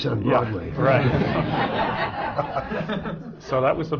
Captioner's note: laughter